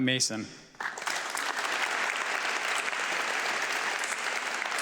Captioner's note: audience clapping